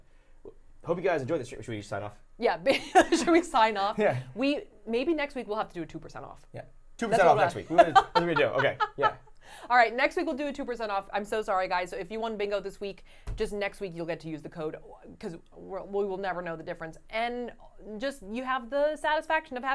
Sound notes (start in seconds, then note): 7.2 laughing